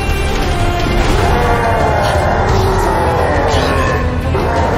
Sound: anime roar; another anime roar

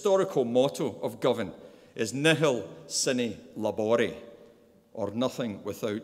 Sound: speaking in a foreign language

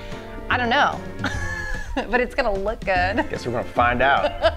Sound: both laugh

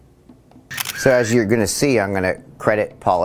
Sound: camera clicking

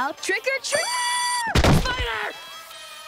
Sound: screaming

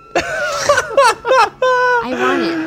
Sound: he laughs

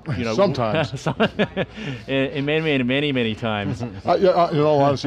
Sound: laughs

